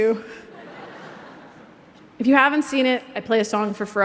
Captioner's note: laughter